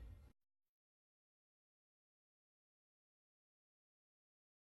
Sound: silence

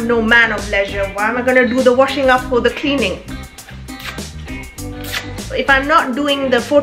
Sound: kisses teeth

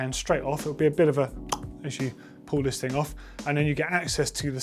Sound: pop

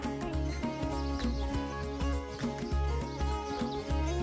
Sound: birds chirp

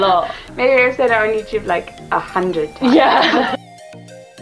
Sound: laughs

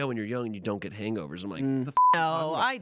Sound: beep

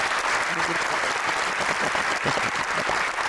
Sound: applause

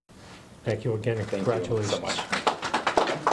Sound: clapping

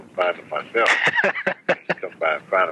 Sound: laughing

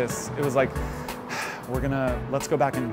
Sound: sighs

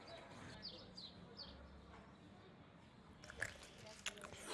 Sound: birds chirping

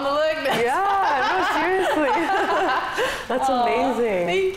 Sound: laughs

